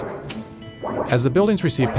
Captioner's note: Arabic